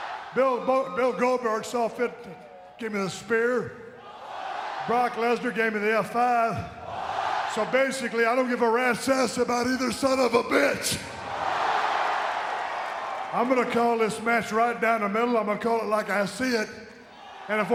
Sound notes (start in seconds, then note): 11.3 audience cheering